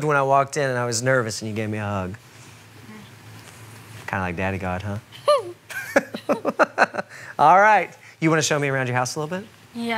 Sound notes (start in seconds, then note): 5.8 laughs